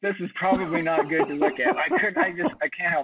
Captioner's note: laughing